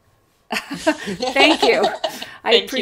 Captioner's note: both laugh